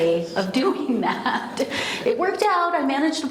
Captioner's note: laughs